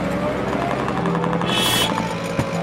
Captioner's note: sound of a machine gun firing; cars honking